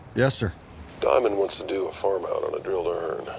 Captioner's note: on phone